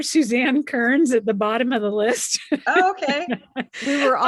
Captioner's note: laughs